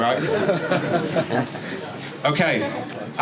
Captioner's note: audience laughing